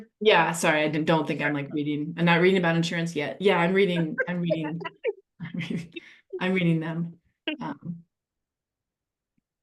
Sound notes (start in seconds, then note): 4.1 chuckles